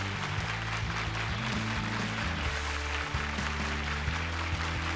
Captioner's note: applause